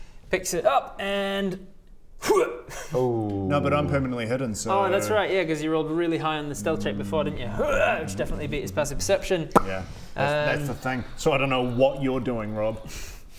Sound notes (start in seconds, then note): 2.2 hyurgh